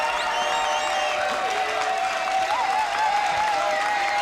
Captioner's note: clapping and cheering